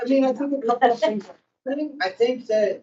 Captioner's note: host laughing